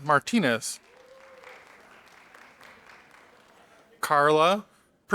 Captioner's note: audience applauding